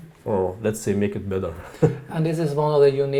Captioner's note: chuckling